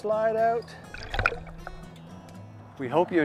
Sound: splash

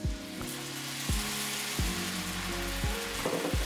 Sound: wine sizzles

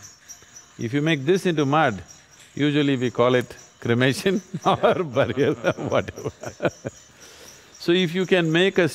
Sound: both Laugh

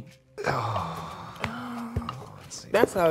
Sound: both sigh

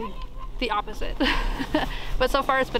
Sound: laughs

